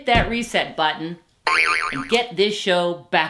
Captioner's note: button boings